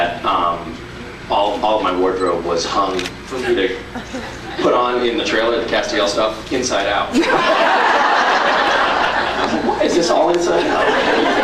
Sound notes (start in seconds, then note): 7.2 laughs; 10.5 scattered laughs